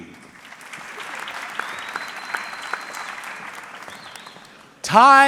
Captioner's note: audience clapping